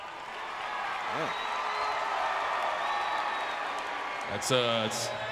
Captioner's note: crowd cheering